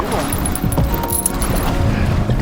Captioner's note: water splashing